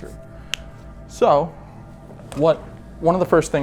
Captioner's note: none